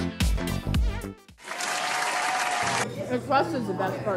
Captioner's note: crowd cheering